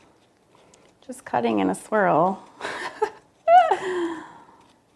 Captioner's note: laughs